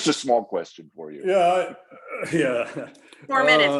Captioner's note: chuckles